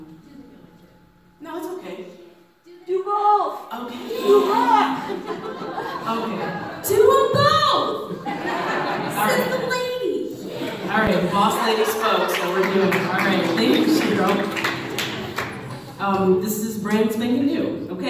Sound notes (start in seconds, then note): 3.2 another audience member shouts "DO BOTH!"; 8.0 audience laughs; 13.4 laughter; 14.8 audience applauds